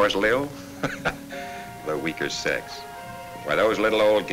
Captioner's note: chuckles